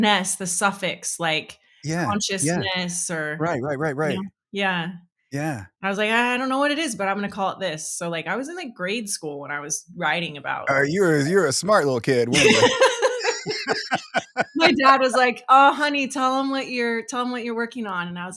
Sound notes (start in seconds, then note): 12.3 laughing